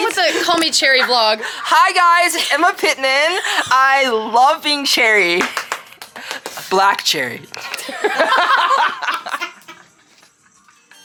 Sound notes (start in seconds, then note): 5.4 applauding; 7.6 people laughing